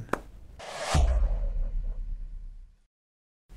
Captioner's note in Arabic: مُؤَثِّرَات صَوْتِيَّة